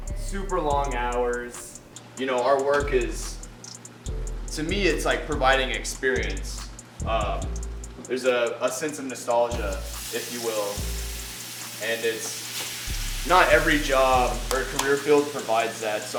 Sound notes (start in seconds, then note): 9.5 sizzling